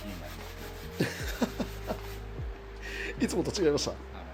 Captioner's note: laugh